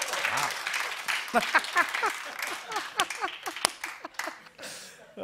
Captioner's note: laughing